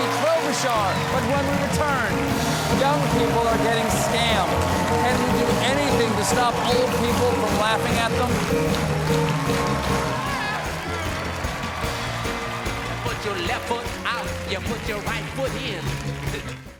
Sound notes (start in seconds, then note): 9.3 applause